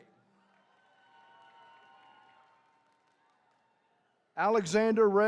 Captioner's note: attendees cheering